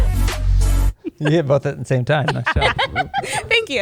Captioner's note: laughter